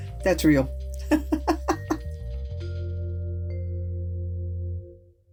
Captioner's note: laugh